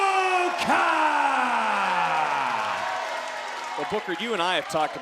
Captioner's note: crowd cheering